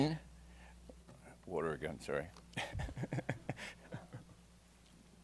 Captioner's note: laughs